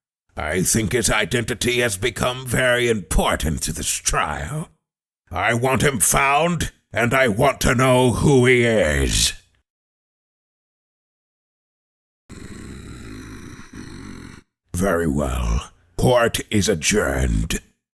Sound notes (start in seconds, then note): 12.3 growls